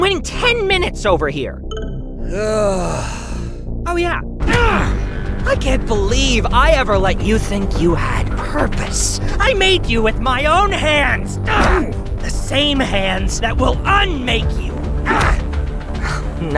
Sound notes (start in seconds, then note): 2.3 sighs; 4.4 punch